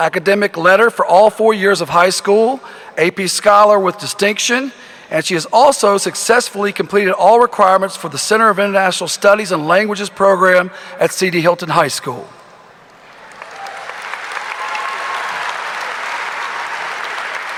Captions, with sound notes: Academic Letter for all four years of high school, AP Scholar with distinction, and she has also successfully completed all requirements for the Center of International Studies and Languages Program at C.D. Hylton High School. (audience applauding)